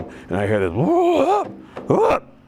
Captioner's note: groans